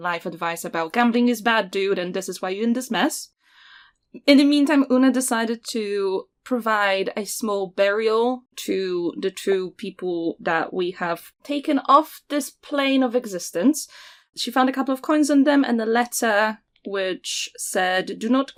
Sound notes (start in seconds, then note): none